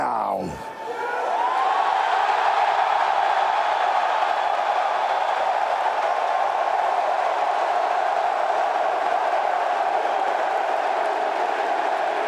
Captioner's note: crowd cheering